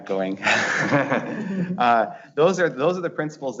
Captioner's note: laughs